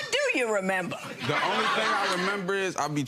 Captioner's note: audience laughing